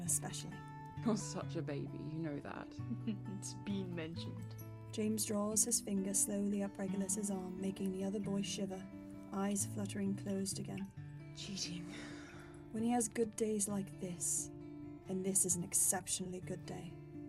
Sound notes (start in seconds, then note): 2.8 James chuckles; 11.9 Regulus sighs